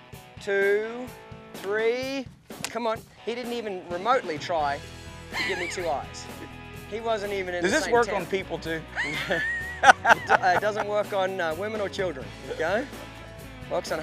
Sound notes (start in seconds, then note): 8.9 laughing